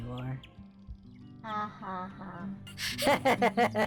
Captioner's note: deadpan